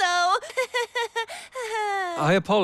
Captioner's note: Ann's awkward laugh